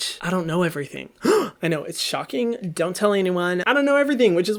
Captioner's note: gasping